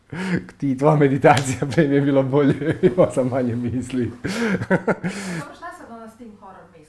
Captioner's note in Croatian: smijeh